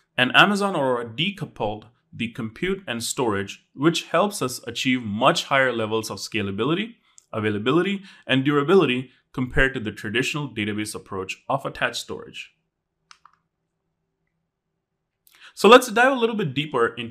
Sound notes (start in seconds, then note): 13.1 remote clicking